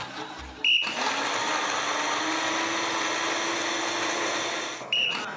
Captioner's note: appliances whirr; blows whistle; blows whistle